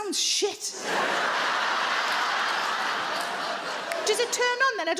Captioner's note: audience laugh